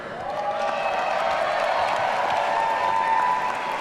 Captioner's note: audience cheering